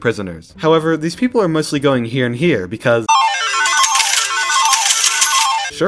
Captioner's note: lottery machine sound